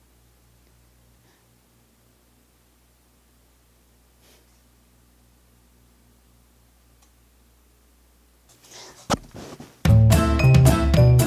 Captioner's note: silence